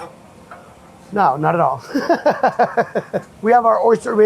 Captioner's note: laughs